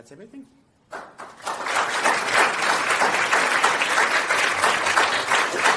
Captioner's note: audience applauding